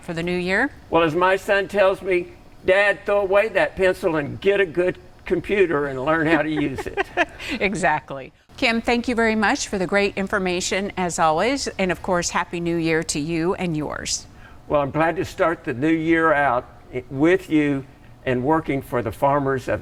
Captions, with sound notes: For the new year? - Well, as my son tells me, "Dad, throw away that pencil and get a good computer and learn how to use it." - (laughs) Exactly. Kim, thank you very much for the great information as always, and of course, Happy New Year to you and yours. - Well, I'm glad to start the new year out with you and working for the farmers